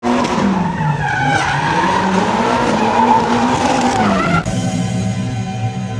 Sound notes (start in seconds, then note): 0.0 engine revving